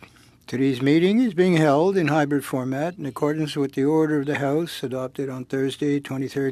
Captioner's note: speaking French